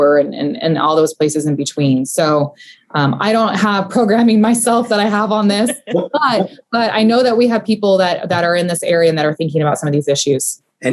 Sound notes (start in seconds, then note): 5.7 laughing